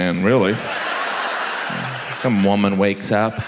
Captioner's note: audience laughs